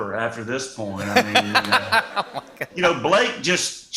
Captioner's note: laughter